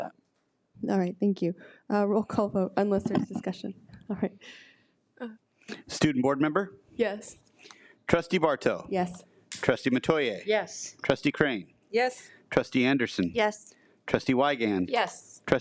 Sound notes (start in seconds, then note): none